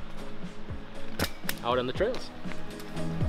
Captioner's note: ratchet strap clinks